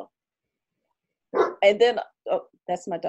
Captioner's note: dog bark